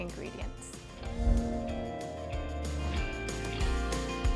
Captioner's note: logo whooshing; soft music